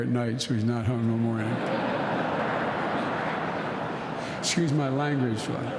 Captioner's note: laughter